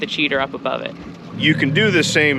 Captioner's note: boat engine running